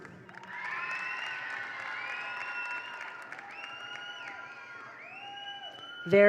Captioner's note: attendees applaud; attendees cheer